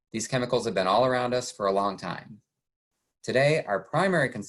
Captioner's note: none